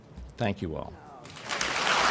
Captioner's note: applause